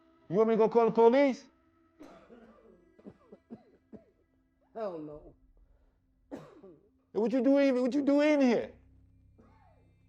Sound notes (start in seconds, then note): 2.0 Ryan coughing